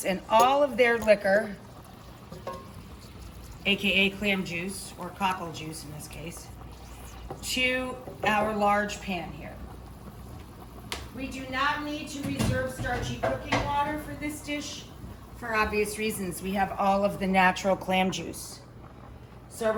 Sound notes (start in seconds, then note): 10.1 sauce bubbling